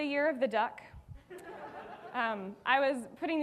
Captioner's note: audience laughing